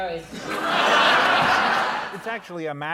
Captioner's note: laughter